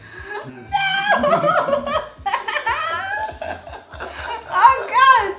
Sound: laughs

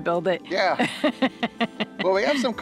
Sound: woman laughs

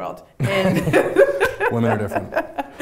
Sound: laughing

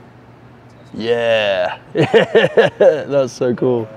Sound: laughs

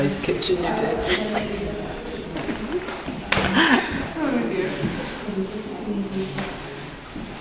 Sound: laughter

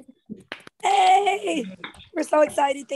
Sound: claps

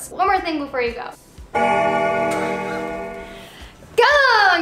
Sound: bell Ringing

